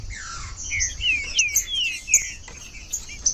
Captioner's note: trinca ferro cantando